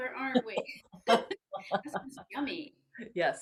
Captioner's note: both laugh